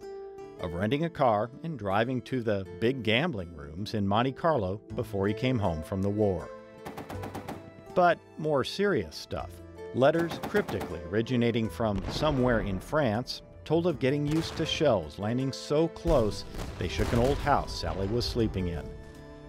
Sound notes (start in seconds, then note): 6.8 machine gun fire